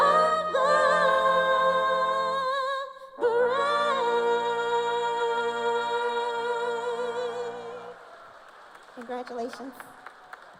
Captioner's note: cheers and applause